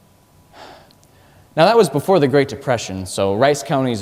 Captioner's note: deep sigh